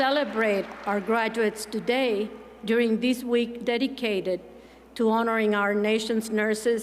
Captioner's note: applause